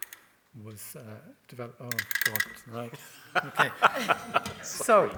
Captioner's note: false teeth chattering